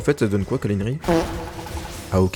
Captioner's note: fart